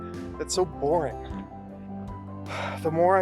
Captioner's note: sigh